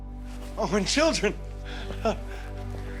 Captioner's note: soft chuckle